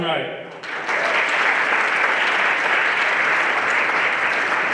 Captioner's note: everyone applauding